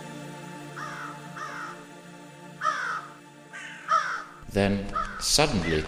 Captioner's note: birds cawing